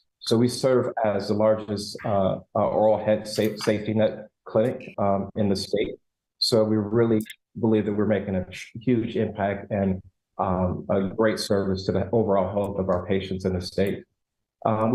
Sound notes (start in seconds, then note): none